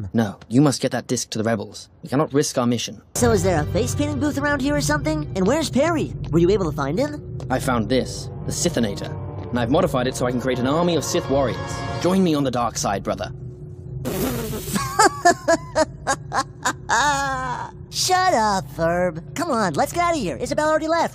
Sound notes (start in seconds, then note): 16.9 laughing